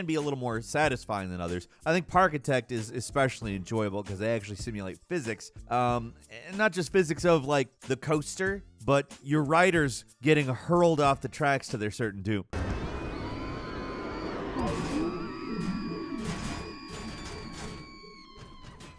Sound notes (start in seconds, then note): 14.1 crowd screams